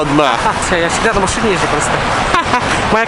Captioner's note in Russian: смех